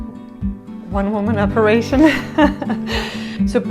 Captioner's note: laughs